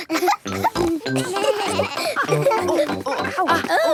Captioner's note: laughter; snorting; exclamations; bleating